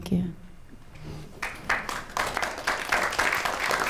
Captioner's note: applause